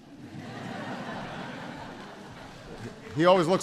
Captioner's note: laughter